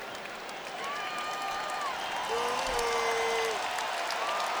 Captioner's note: crowd cheering